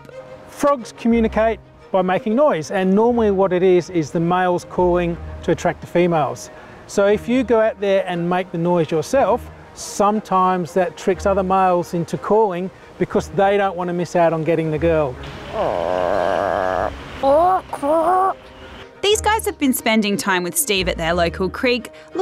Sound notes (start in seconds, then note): 15.5 ribbits; 17.2 croaks